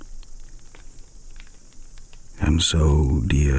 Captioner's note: fire crackling and night insects buzzing